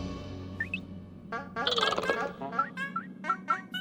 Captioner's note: chirping